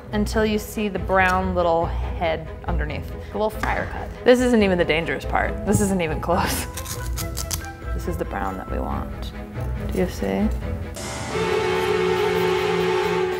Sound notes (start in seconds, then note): 6.6 cutting coconut; 10.6 horror music